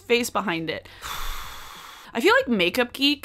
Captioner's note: exhaling